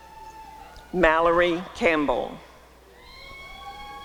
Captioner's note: applause and cheering